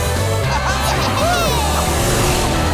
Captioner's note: cheering